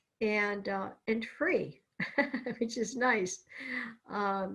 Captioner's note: laughs